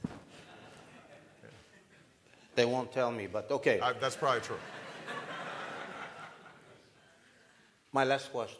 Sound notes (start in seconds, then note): 0.3 laughter; 4.1 laughter